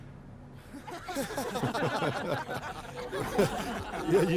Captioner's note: risas